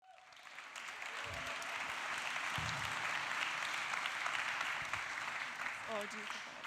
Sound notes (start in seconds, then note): 4.5 audience applauds